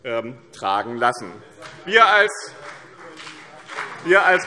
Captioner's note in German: Beifall BÜNDNIS 90/DIE GRÜNEN und CDU - Zurufe SPD